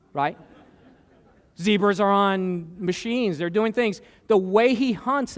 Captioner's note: laughter